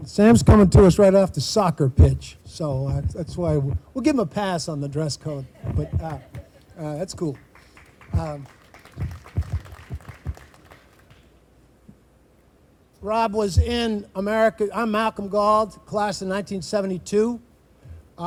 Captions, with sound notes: - Sam's coming to us right after the soccer pitch. So that's why, we'll give him a pass on the dress code. But that's cool. (group applauding) Rob was in America, I'm Malcolm Guld, class of 1972.